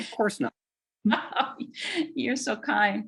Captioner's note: laughs